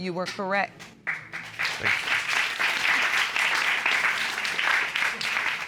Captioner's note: applause